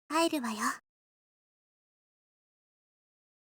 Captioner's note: silence